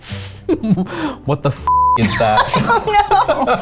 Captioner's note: beep; laughs